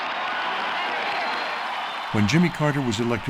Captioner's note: cheering and applause